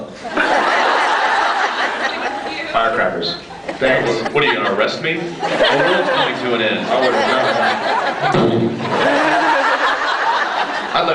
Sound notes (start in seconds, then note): 0.2 laughs; 6.5 laughs; 8.0 explosion noise; 8.0 laughs